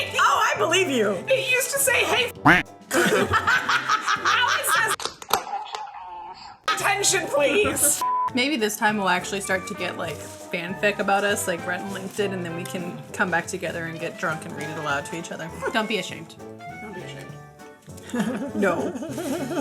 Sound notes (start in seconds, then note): 2.9 laughing; 5.3 robotic Voice; 8.0 beep